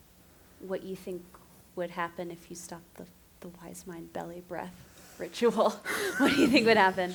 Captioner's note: laughter